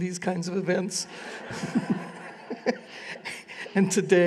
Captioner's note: laughter